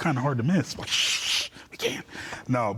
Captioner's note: shushing